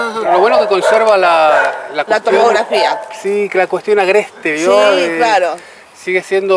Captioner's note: small talk continues